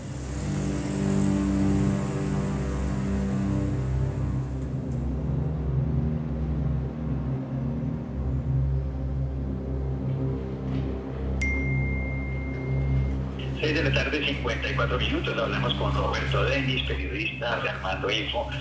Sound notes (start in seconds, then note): 11.5 phone chimes; 13.1 on phone